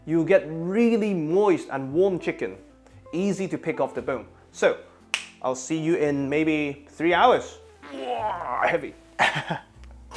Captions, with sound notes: you'll get really moist and warm chicken. Easy to pick off the bone. So I'll see you in maybe three hours. [grunting] Heavy. [chuckles]